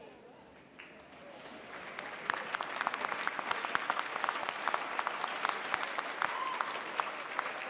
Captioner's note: applause